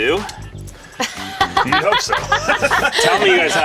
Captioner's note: laughs